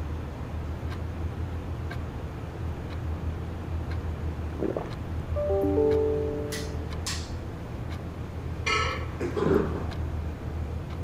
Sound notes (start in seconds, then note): 5.4 laptop notification rings